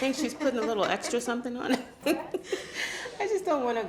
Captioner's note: laughs